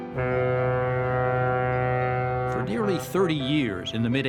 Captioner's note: boat honking